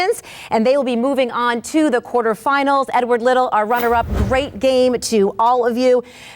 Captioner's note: none